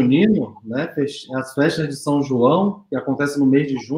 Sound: speaks portuguese

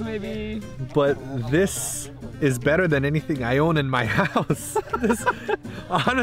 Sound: laughing

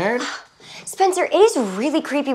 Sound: scoffs

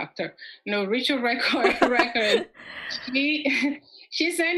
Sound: laughs

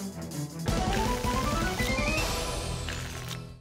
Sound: applause and cheering cont

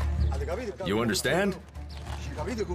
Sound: speaking in Italian

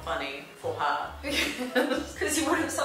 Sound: laughing

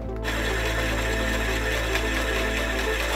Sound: saw buzzing

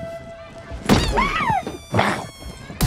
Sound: squeaking

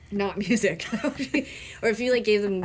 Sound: laughing

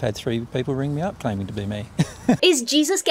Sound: laughs

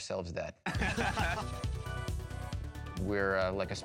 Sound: laughing

